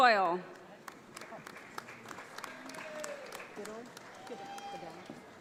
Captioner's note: audience applauds